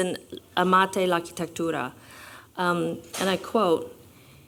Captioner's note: non-english